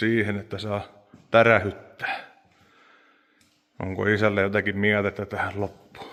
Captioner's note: sigh